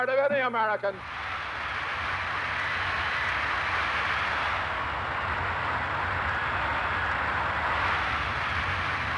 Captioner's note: crowds cheering